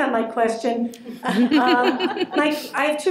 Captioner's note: laughter